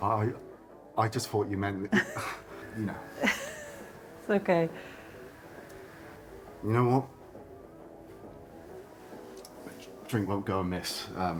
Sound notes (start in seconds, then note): 1.9 laughs